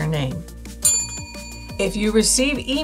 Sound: bell rings

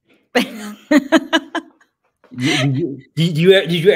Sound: laughs

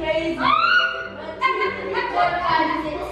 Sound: screams; laughing

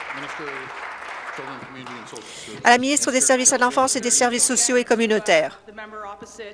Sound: applause

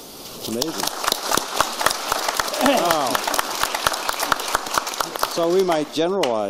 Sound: applause

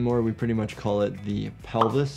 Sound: none

